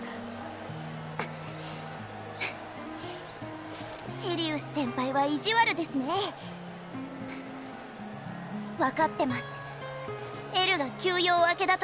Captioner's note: huff